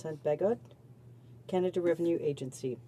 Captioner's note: speaking French